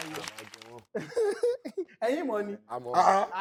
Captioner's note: laughs